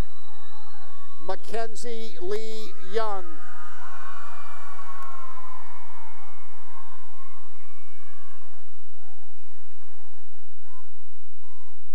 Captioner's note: cheering; cheering and applause